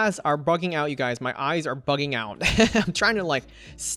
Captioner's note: laughs